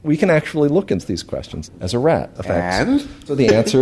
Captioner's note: laughs